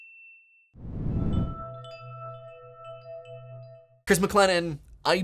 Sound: sound effect

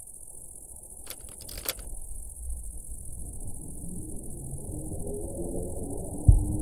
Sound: ignition clicking; keys jingling

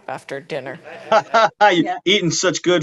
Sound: all laughing

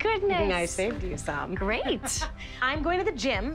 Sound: laughs; chuckling

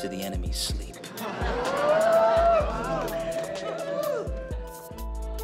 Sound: laughter and whooping

